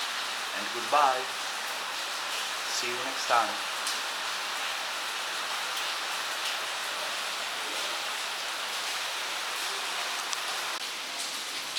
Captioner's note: rain sound